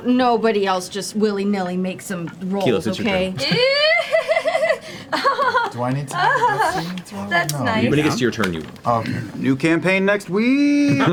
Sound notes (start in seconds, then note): 4.9 nervous laughter